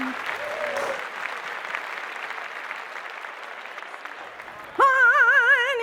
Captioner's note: clapping